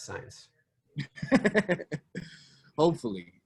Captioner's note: laughter